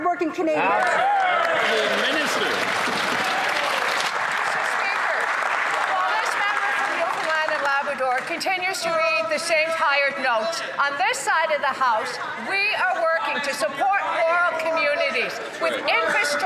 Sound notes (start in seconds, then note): 7.0 some Applause